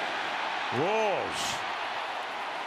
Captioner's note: cheering